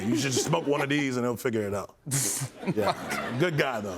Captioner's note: laughter